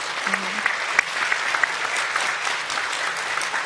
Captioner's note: applause